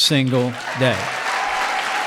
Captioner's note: applause